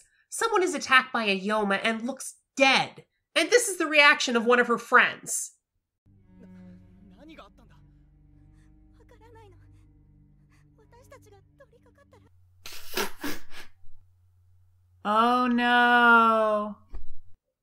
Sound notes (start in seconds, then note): 6.0 speaking Japanese; 12.7 laughing